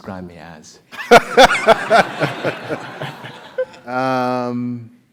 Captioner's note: laugh